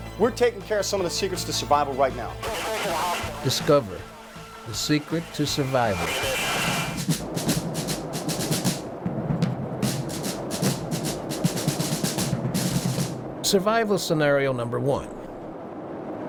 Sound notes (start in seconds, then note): 7.8 radio chatter; 8.2 marching drum music